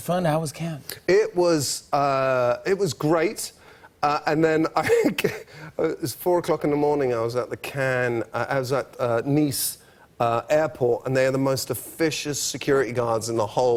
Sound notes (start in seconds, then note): 4.1 laughs